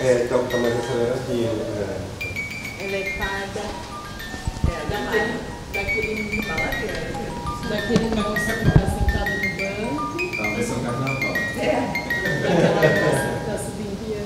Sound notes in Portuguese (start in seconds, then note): 2.1 caixinha de música; 3.2 vozerio ao fundo